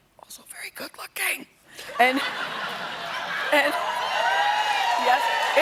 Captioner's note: whispers; cheers and applause